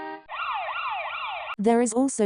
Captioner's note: beeping horn; siren